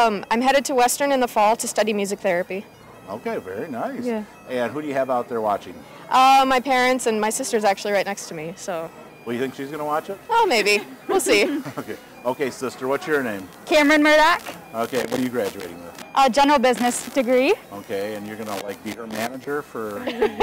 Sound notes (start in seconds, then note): 11.1 both chuckling